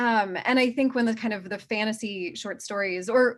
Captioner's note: none